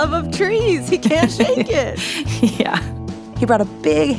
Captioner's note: laughs